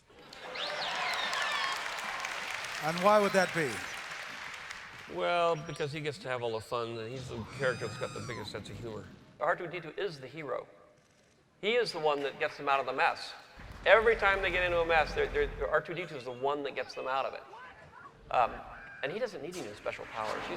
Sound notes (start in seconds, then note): 0.1 beeping; 3.8 applause